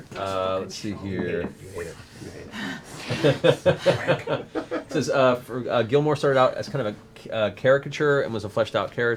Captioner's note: laughs